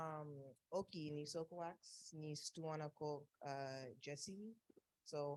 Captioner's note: speaking native language